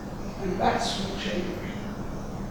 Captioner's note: speaking softly